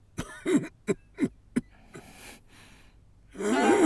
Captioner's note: coughing